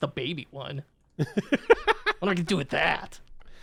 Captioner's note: laughing